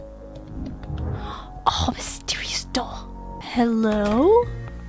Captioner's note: gasps